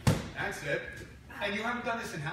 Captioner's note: target being punched